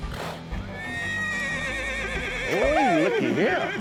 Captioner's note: horse whinnies